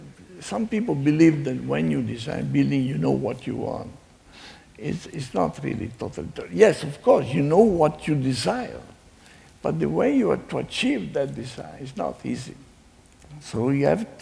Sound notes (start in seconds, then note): none